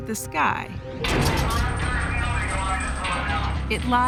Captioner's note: metal rattling, radio chatter